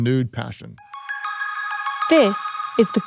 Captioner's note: gently chiming bells